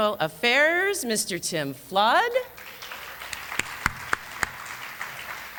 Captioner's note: applause